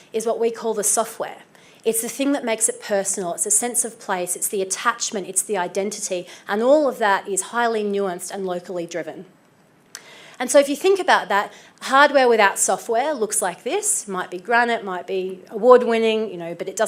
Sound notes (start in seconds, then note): none